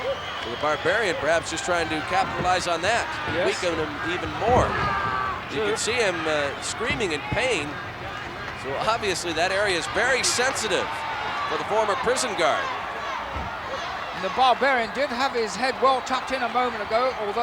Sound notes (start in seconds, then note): 13.1 applause